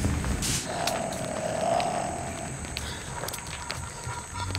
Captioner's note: plants rustling, twig snaps